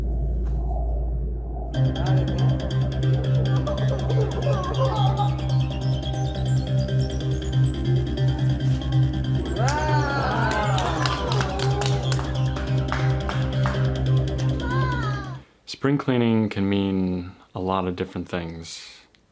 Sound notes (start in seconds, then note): 3.5 child giggles; 9.5 audience claps together